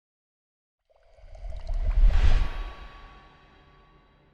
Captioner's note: water bubbling